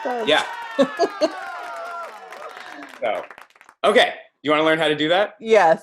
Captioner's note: laugh